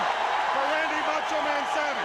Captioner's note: crowd cheering